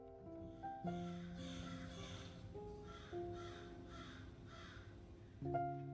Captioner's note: crows cawing